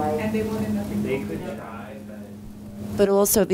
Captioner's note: students speaking